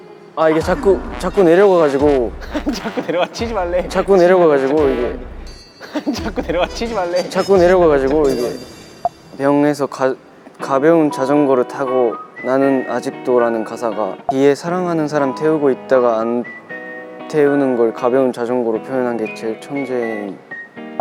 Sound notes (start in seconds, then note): 1.8 laughing